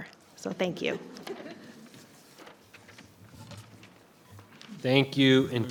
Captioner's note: person chuckling